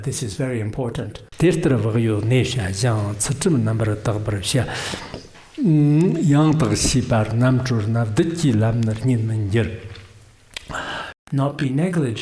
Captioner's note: giving oral transmission in Tibetan